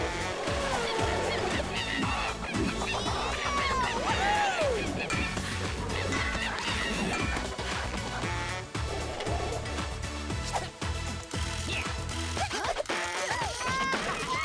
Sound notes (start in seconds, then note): 0.4 monkey cries; 10.9 grunting; 12.2 laughing